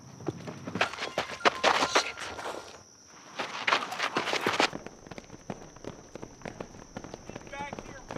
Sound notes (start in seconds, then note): 1.3 phone rings